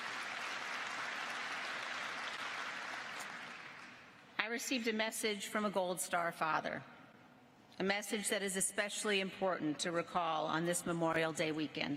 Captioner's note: applause